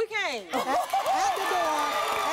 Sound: cheers

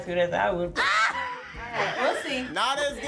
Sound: Tia laughing

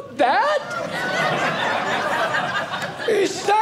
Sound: audience laughing

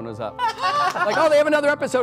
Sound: laughing

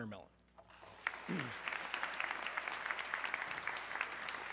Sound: audience clapping

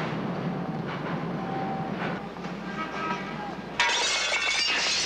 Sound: bulbs shattering

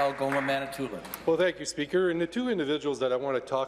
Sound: applause

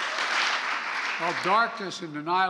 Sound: applause

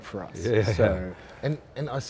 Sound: laughing

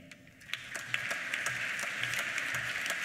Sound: applause

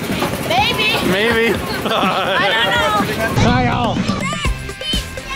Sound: laughs

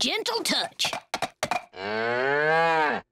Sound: mooing

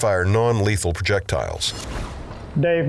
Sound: whooshing

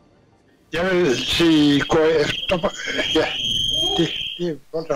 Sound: distorted sound; in Danish; distorted sound

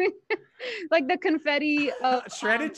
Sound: laughing

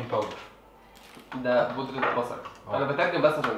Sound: in Arabic

